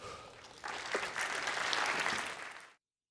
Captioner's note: applause